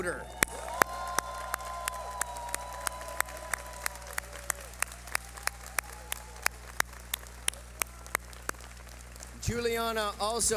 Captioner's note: cheering